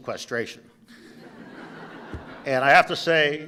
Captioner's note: laughter